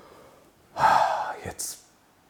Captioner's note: sigh